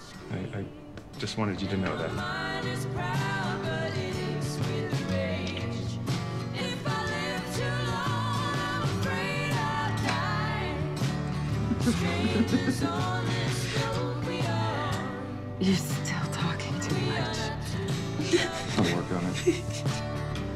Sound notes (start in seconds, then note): 11.4 sighs; 11.5 laughs; 18.2 laughing